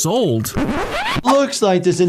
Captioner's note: screen swooshes